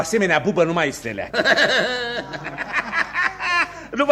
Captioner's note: laughs loudly